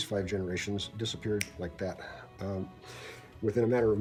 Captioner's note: finger snaps